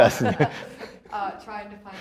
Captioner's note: laughing loudly